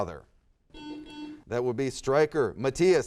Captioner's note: buzzer sounds